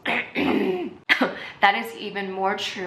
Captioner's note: clears throat; baby cough